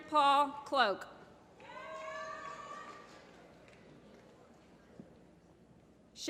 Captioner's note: applause